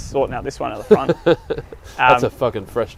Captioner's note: laughing